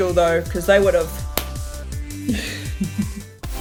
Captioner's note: smack!